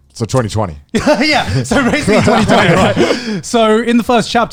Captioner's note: laughs